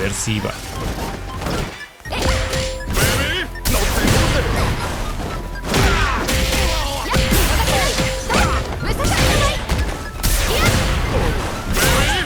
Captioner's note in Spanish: Sonido del Combate